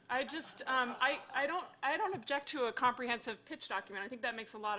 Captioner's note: laughter